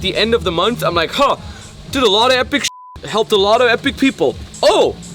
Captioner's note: beep